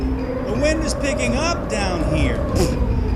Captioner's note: mocking